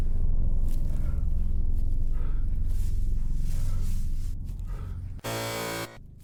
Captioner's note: heavy breathing; buzzer